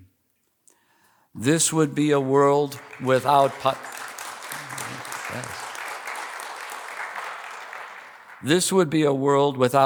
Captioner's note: applause